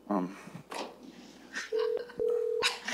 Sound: laughter; phone rings

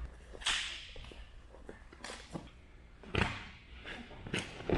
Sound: hands slapping

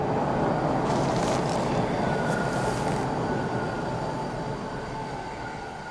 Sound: subway brakes squeak

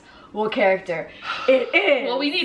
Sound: sigh

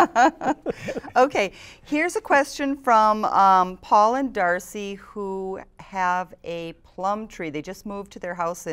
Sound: laughter

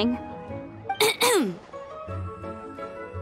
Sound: clears throat

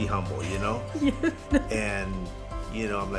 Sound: laughing

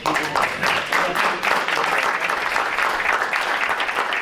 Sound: clapping

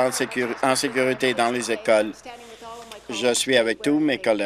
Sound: applause

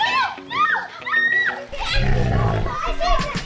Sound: growl

